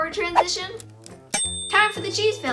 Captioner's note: timer dings